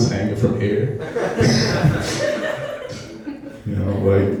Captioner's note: laughing